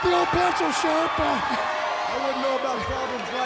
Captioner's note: audience cheers